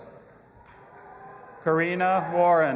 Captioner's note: audience applauding and cheering